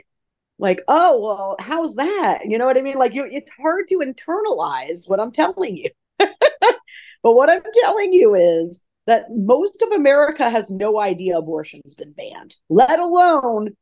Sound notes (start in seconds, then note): 6.2 laughs